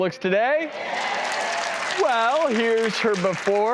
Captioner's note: audience cheers